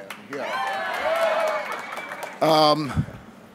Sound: cheering

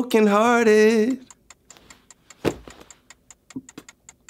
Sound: clock ticks

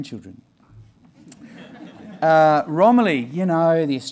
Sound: audience laughing

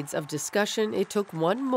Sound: applause

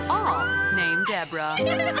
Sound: screams

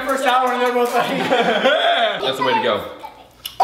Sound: laughs

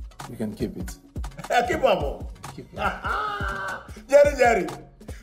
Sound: foreign language

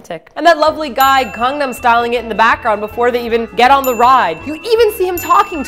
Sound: ding

